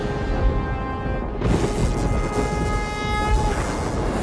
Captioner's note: buzzing